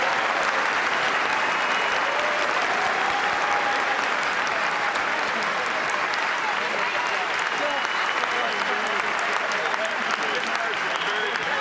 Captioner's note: cheers and applause